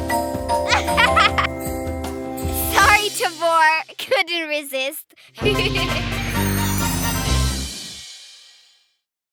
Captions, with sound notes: (laughing) Sorry, Tobor! Couldn't resist. (giggling)